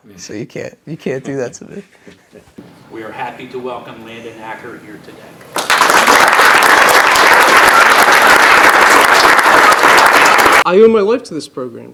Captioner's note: applause